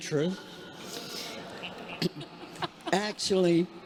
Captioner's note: congregation laughing